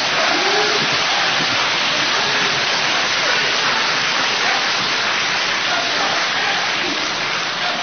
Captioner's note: sustained applause